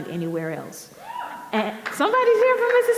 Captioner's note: audience member cheers